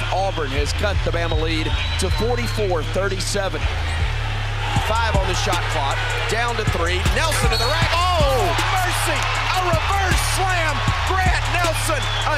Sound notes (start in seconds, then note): 7.2 whistle blowing